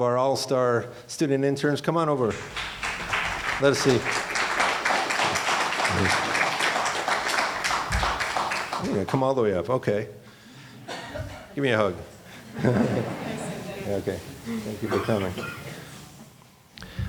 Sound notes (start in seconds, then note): 2.3 applauding; 12.7 laughing